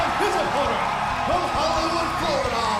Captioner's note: crowd cheering